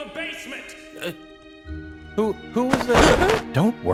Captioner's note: gasps